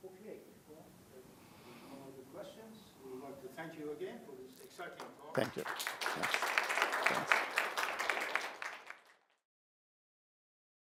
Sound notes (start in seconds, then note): 7.3 applause